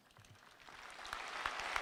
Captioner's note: applause